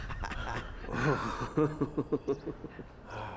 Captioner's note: chuckles; laughs